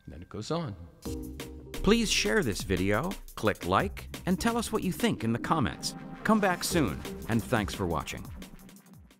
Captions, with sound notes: And it goes on. - [Voiceover] Please share this video, click like, and tell us what you think in the comments. Come back soon, and thanks for watching.